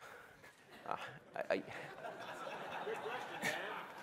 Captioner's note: chuckling